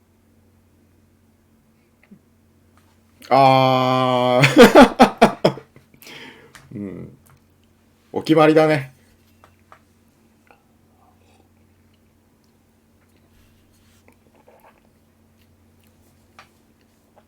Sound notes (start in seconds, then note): 4.4 laughter